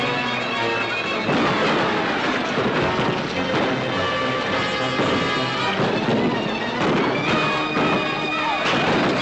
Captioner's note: tense music; crash - gunshots